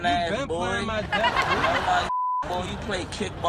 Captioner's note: all laugh; beep